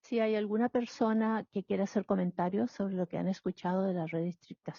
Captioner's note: speaking in Spanish